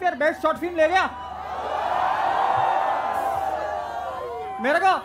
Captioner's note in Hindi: चियरिंग